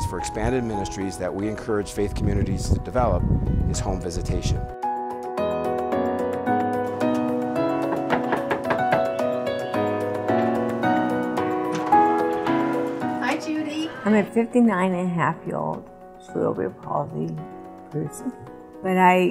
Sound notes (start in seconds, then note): 5.5 upbeat music; 7.1 knocking